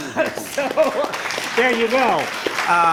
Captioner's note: laughter; applause